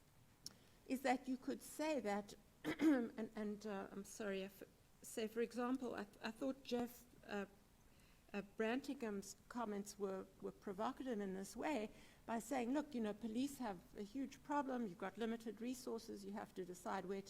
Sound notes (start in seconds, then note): 2.6 clears throat